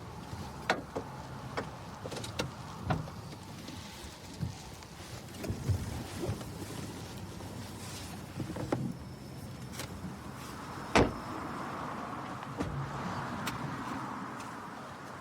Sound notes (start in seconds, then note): none